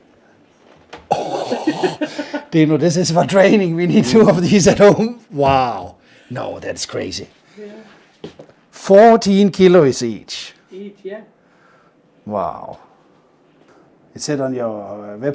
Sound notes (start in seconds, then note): 1.7 laughter